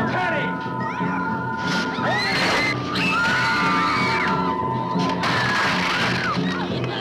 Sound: party goers screaming

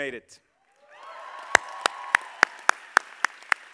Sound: all applauding

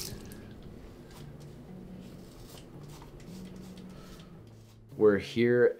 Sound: razor scratching

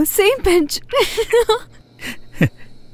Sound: laughs

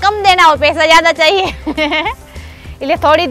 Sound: laughing

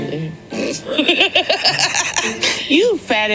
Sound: Tammy laughs

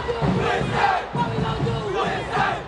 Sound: team chanting

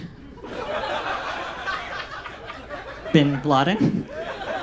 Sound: audience laughs

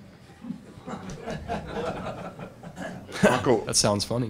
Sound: laughter

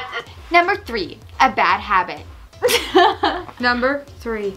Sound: laughs

